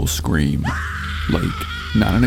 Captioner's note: screaming